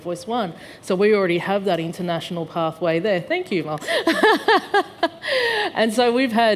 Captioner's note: laughs